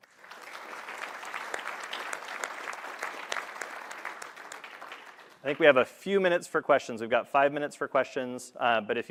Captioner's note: applause